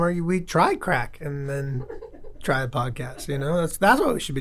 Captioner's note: lady chuckles